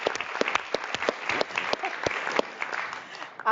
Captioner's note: audience claps